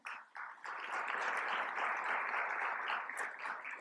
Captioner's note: applause